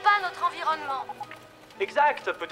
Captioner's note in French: bip de ligne